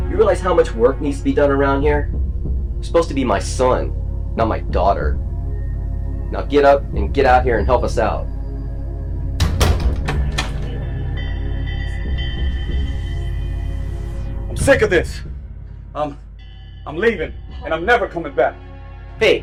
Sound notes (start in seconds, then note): 9.3 door shutting; 11.4 unsettling music